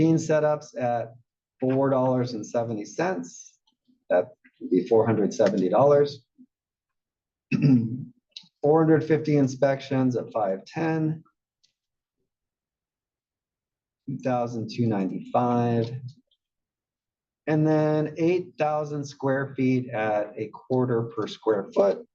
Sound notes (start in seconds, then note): 7.5 cough